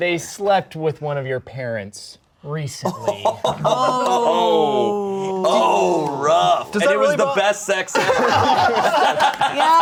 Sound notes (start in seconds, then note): 2.9 laughing; 7.9 everyone laughing